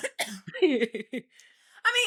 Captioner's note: coughing